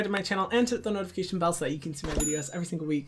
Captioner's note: ding